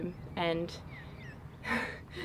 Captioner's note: laughs